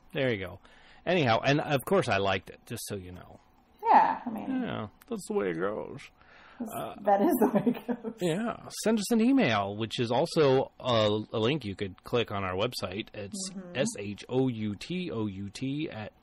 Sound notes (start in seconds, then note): 7.2 laughs